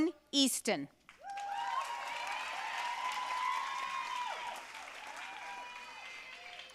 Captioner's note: audience cheering and applauding